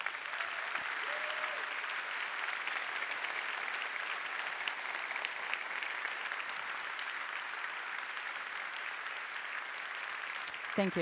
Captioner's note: applause